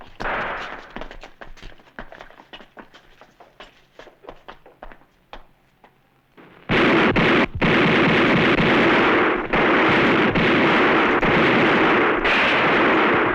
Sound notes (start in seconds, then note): 6.4 gunfire